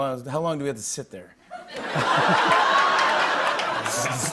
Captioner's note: laughter